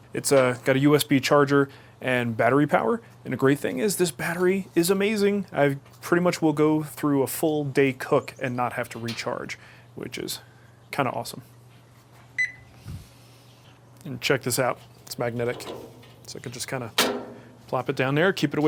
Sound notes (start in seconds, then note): 12.4 beeps